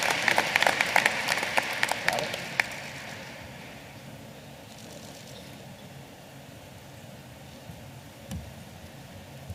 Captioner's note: applause